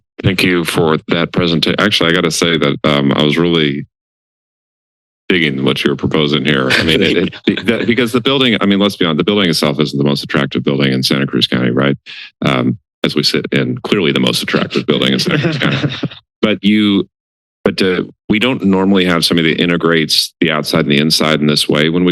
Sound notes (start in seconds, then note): 14.6 laughter